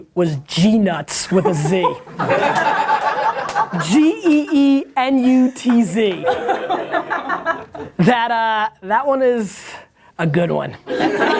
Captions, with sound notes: was GeeNutz with a Z. - (laughs) - G-E-E N-U-T-Z. - (laughs) - That one is a good one.